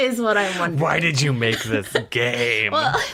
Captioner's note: laughs